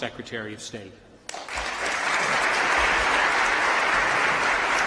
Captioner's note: applause